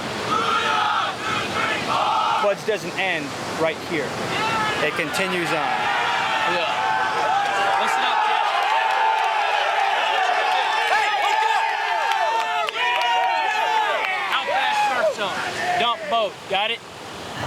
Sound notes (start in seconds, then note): 4.2 other group cheers